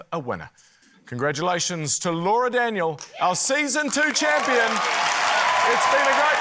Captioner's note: cheering, applause